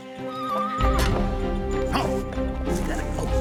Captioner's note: horse neighs